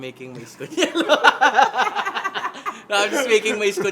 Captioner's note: laughs